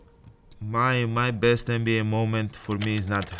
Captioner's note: keyboard clicking